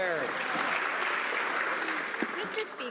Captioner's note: some Applause